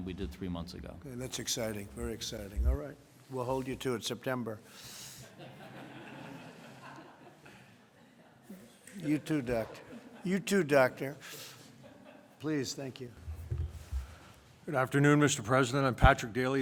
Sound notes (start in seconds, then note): 5.2 laughter